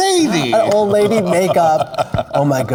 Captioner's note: laughing